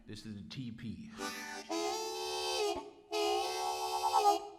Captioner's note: train chugging